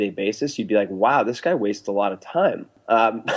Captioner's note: laughs